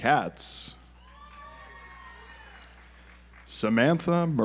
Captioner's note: audience applauds